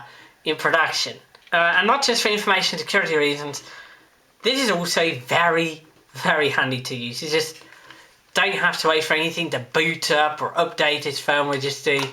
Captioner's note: tape sounds